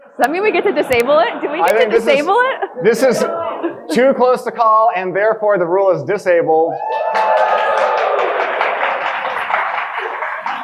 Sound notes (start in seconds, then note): 6.7 audience cheering